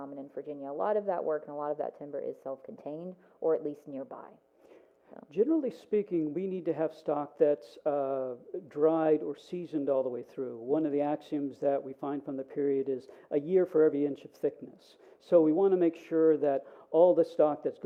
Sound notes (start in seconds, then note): none